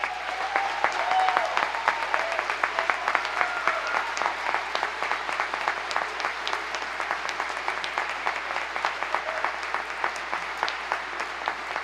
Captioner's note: applause